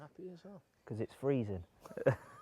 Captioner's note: laughs